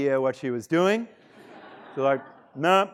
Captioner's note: students laughing